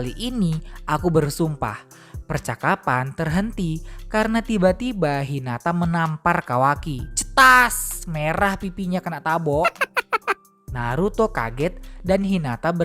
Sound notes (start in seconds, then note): 9.6 laughter